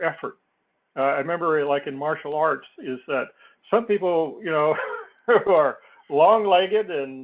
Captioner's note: laugh